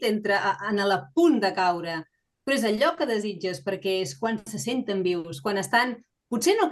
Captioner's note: continues speaking in Catalan